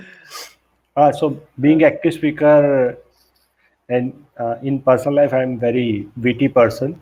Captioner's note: laughs